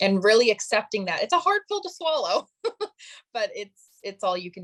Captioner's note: chuckling